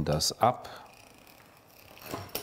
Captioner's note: rattling